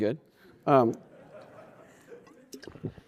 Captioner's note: laughter